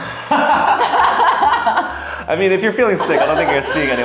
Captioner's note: laugh